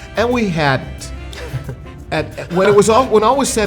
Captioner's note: laughing